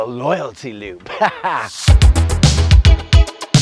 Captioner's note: laughs; upbeat techno music